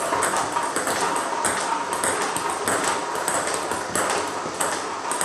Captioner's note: ball ping pong hitting continues